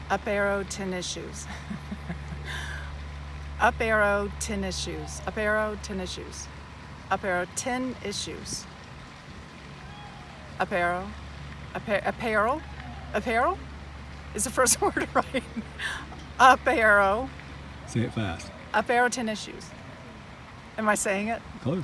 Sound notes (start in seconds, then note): 1.4 laughs; 8.7 water burbling; 14.5 laughs